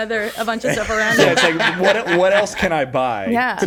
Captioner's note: laughs